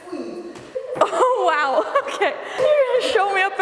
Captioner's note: laughing